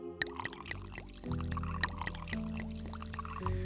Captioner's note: drink pouring